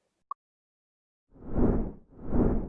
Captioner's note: whooshing